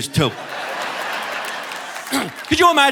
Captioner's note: audience laughing